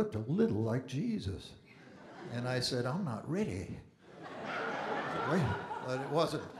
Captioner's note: audience Laughing